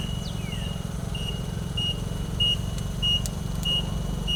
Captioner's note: fork truck beeping